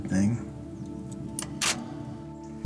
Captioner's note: camera clicks